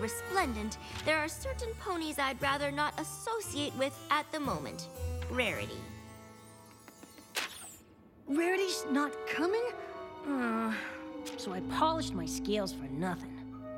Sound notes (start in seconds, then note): 6.7 footsteps approaching